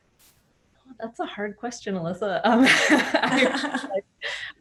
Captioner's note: laughs